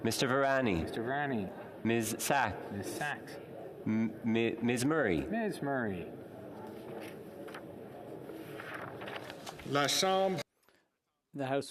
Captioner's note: calling of recorded vote